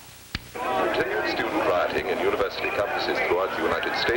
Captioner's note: tv newsreader, over sounds of rioting